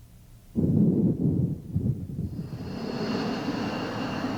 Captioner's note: wind whooshing